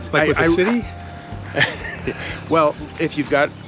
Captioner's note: Paul laughs